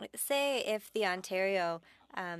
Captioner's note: speaking French